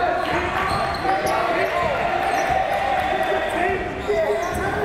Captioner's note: crowd chanting defense